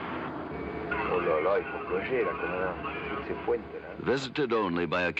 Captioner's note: speaking french